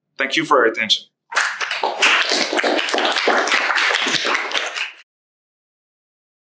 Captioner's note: applause